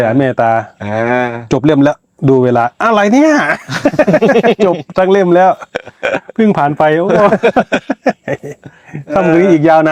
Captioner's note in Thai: เสียงหัวเราะ